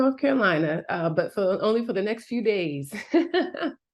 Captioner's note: laughing